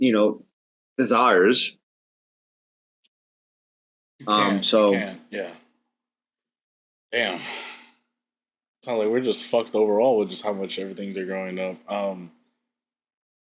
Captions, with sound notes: you know, desires. -You can't, you can- -Um, so- Yeah. Damn. [sighs] It's not like we're just fucked overall with just how much everything's are going up. Um,